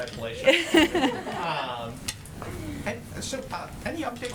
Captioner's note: laughter